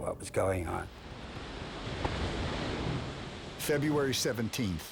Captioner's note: waves crashing